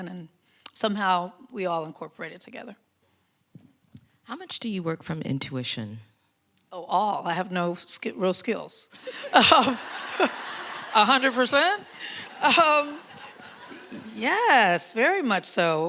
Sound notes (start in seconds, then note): 9.0 audience laughs